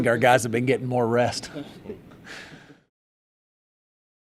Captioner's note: laughter